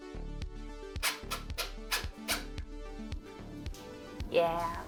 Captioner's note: upbeat music; tool drilling